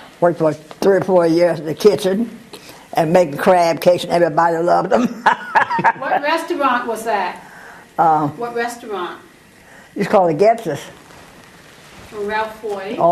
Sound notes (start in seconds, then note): 4.9 laugh